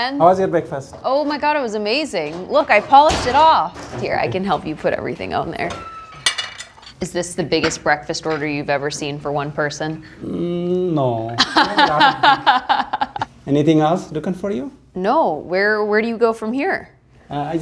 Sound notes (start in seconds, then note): 11.3 laughs